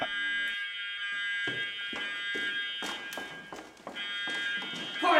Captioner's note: alarm resounding